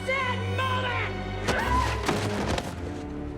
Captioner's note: screaming